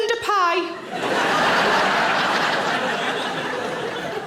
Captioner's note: audience laughing